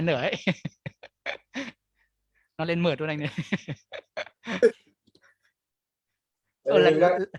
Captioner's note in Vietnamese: Tiếng cười